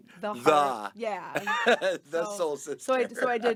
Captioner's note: laughing